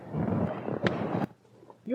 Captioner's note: slap